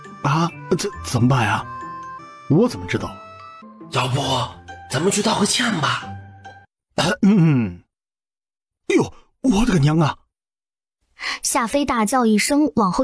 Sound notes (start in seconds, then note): 6.9 cough